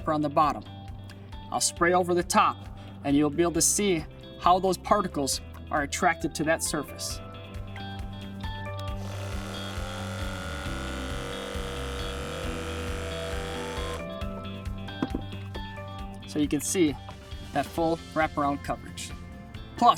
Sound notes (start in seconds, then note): 8.8 sprayer whirring; 13.9 upbeat music